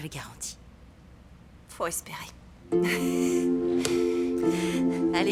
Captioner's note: laughing